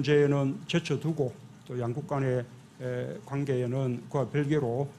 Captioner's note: Korean